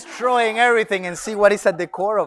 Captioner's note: audience laughs